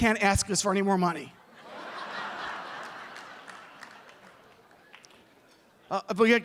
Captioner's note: laughs